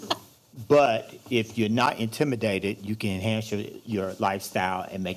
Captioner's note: microphone static